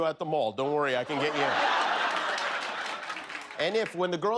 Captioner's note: laughter